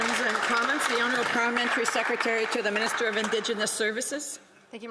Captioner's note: some Applause